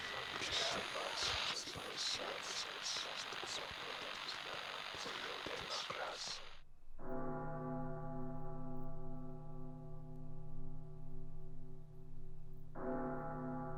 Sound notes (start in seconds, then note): 7.2 large bell tolling repeatedly